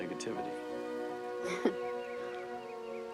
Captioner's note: chuckles